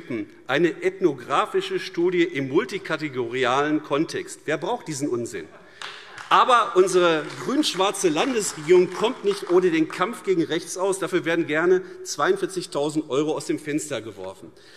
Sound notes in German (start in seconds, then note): 5.7 Beifall AfD